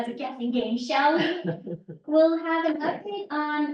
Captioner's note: laughter